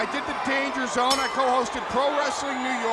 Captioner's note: bell dinging